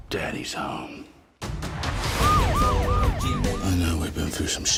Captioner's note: sirens wailing; upbeat music